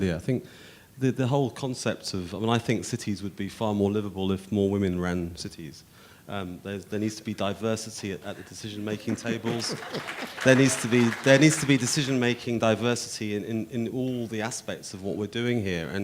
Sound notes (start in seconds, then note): 8.8 audience applauding; 8.8 chuckling